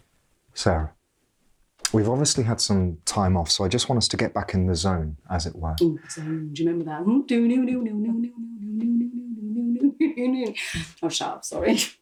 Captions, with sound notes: Sarah, we've obviously had some time off. So I just want us to get back in the zone as it were. - Ooh, "The Zone," do you remember that one? (Penny making spooky noises) I'll shut up, sorry.